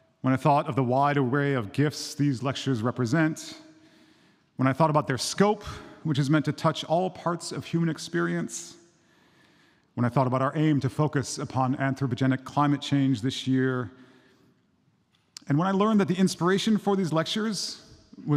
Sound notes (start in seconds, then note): none